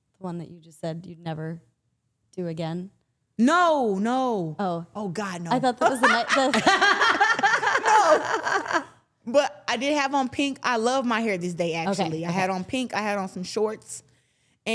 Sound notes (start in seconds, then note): 5.9 everyone laughing